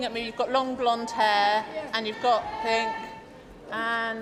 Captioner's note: cheering and applause